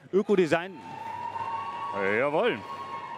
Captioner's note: cheers